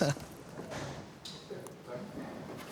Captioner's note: laughter